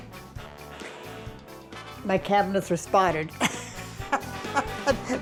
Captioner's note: laughing